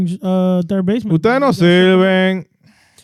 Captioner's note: speaking In Foreign Language